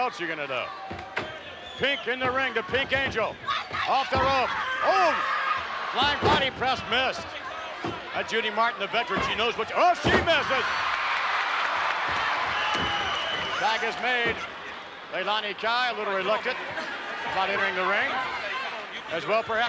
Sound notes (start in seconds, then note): 11.0 audience cheering